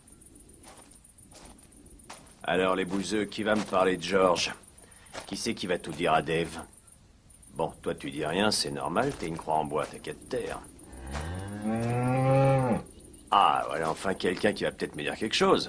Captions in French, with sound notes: -Alors, les bouseux, qui va me parler de George ? Qui va tout dire à Dave ? Toi, tu dis rien, c'est normal, t'es une croix en bois. [Meuglement] Voilà enfin quelqu'un qui va me parler !